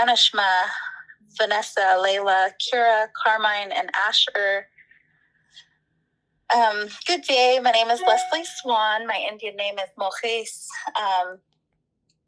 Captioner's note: speaking Yakama